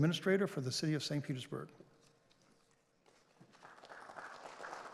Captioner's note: applause